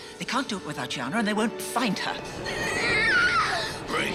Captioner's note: Chiana screaming